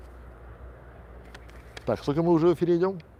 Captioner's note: quiet voice-over